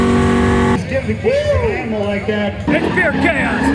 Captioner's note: crowd chattering